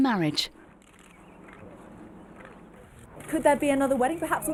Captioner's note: camera shutters; birds chirping